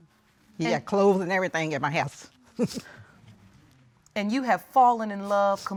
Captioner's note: chuckles softly